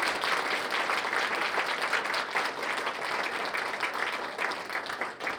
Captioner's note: applause